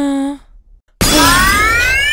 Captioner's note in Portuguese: Quebra de vidro